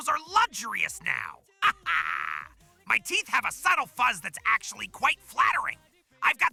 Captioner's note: proud laughter